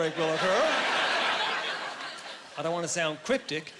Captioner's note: laughing